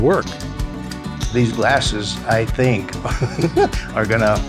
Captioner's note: laughs